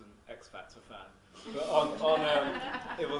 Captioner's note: audience laughs